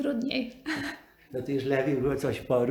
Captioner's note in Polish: śmiech; ze śmiechem